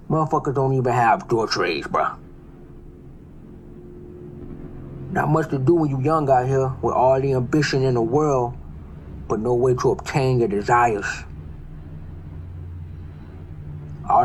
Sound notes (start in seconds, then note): 3.9 helicopter; 12.3 neighborhood sounds